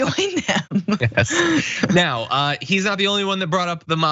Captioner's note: laugh